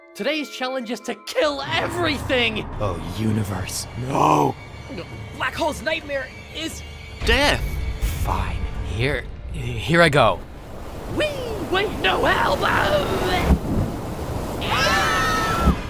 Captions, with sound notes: Today's challenge is to KILL EVERYTHING! Oh universe--NO! [GULP] BLACK HOLE'S NIGHTMARE IS… DEATH! Fine--here, HERE I GO! WEEE! WAIT--NO HELP ARRGHLBHA– [SCREAM]